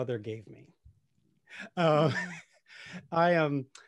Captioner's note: laughs